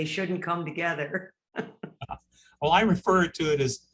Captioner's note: laughing